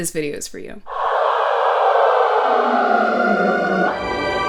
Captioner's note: hell noise; angel noise